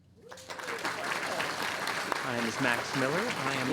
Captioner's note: audience applauding